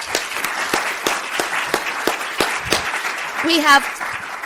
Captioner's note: crowd clapping